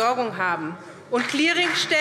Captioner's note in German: Beifall SPD